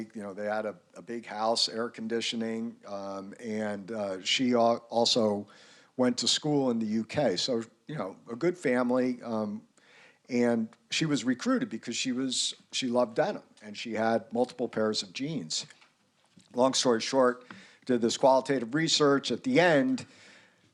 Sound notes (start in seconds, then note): none